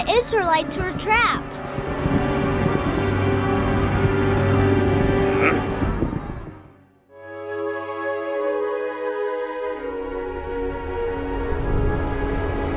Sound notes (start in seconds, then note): 5.2 Moses grunting; 7.4 peaceful music